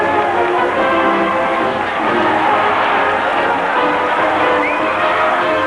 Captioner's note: cheering; cheering continues